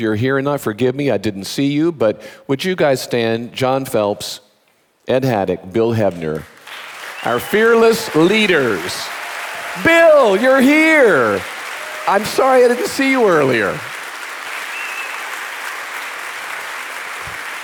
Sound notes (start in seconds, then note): 9.0 audience applauding; 9.0 audience cheering